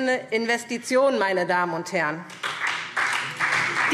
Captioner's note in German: Beifall SPD und DIE LINKE